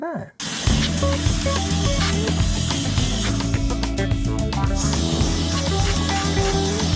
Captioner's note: blower whirring